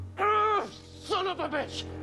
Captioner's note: groans